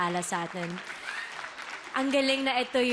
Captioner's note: audience applauding